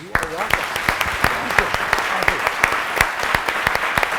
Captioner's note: applause